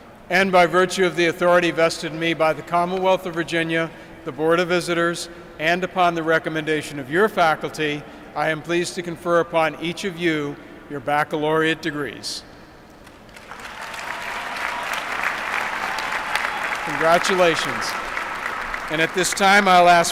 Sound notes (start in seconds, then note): 13.0 applause